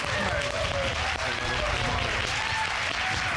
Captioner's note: applause